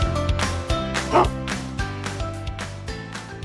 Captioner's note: dog barks; uplifting music